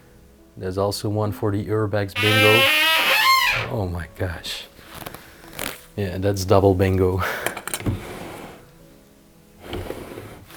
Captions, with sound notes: That's also one from the "urbex bingo". (Door squeaks sharply) Oh, my gosh! Yeah, and that's double bingo.